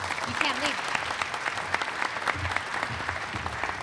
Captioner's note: applause